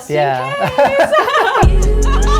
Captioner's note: laughing